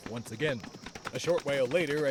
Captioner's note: horses gallop